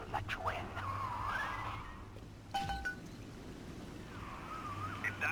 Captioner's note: clink